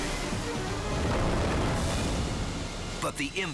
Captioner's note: waterfall roaring